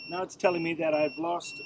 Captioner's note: TPMS beeping